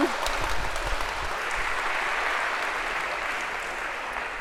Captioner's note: applause